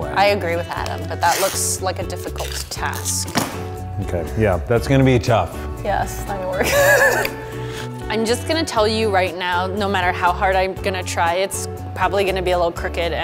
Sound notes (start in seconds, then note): 6.6 laughing